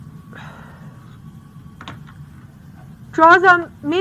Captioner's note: sighs